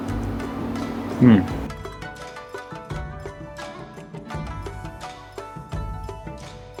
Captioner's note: inspiring music; savoring